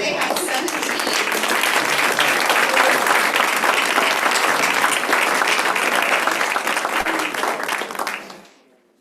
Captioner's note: applause